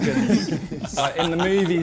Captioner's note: men laughing